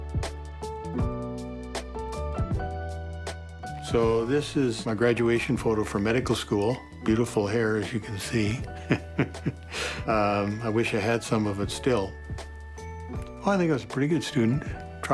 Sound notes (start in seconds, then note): 8.8 laughs